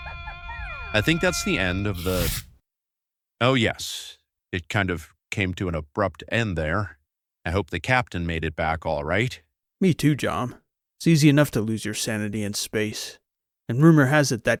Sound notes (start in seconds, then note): 0.0 distant indistinct screaming sound can be heard in the background